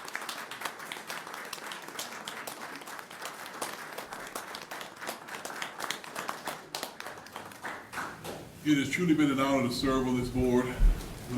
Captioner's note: applause